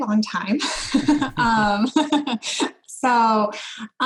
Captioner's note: laughs